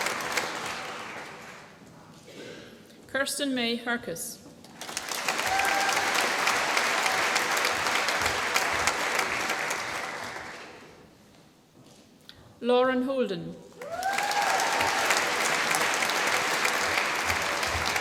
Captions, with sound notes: Kirsten May Hercus. (APPLAUSE) Lauren Holden. (APPLAUSE)